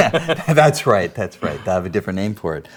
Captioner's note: laughs